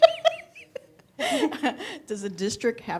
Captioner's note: laughter